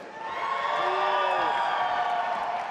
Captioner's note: audience applauding and cheering